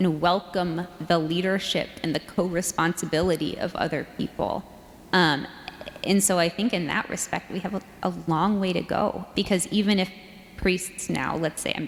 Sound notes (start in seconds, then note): none